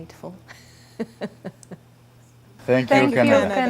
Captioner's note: laughs